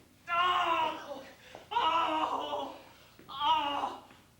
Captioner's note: pained screams